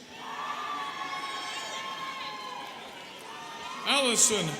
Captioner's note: students cheering